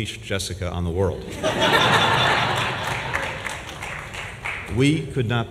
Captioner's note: laughter and applause